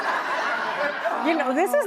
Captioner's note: audience laughing